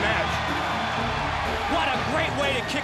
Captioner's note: crowd cheering